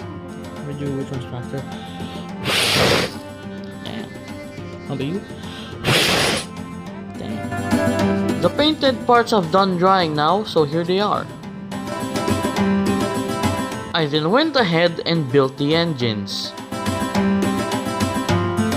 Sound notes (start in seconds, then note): 5.8 fwwwhhhhhuuoooohhh!!!